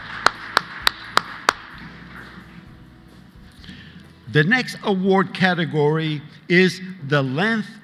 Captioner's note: applause